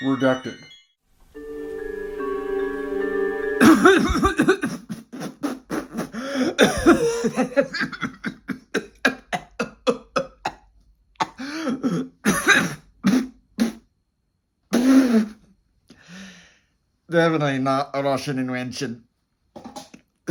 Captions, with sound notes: REDACTED. [Prolonged coughing] Definitely not a Russian invention.